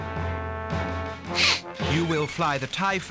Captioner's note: laughs